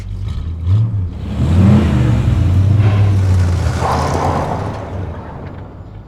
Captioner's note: engine revving; tires spinning out